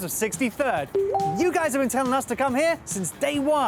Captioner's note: alert chimes